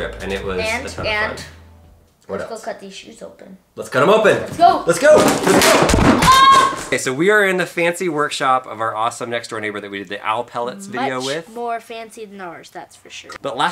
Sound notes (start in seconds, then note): 5.0 boxes crashing; 6.2 screams